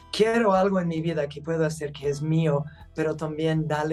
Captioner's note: speaking Spanish